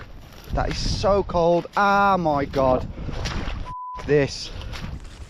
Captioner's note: beep